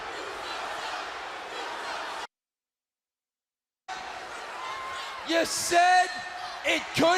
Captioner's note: crowd cheering